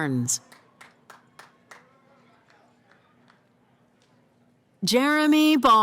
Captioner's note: cheering